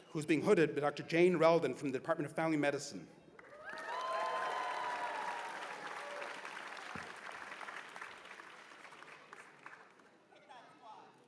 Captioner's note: cheers and applause